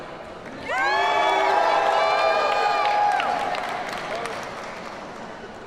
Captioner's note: audience cheers and applauds